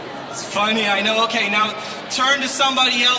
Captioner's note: crowd